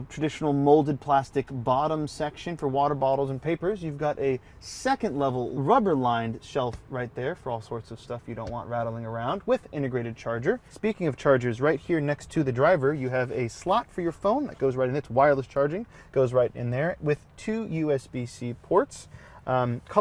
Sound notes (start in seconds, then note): none